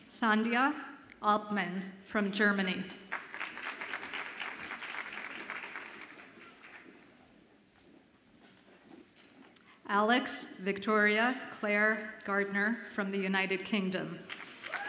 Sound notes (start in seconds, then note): 3.1 audience applauds; 14.3 audience applauds and cheers